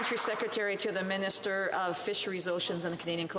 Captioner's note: some Applause